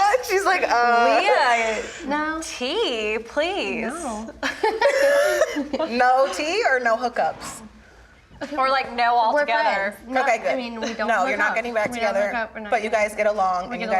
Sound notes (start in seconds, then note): 0.0 laughs; 4.4 group laughs